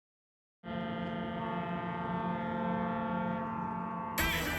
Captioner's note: ship horn blowing